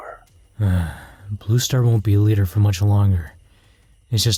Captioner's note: sigh